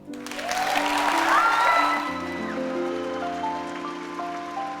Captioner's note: audience cheering and clapping